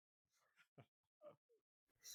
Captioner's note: laughing